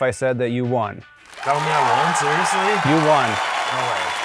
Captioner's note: cheering sounds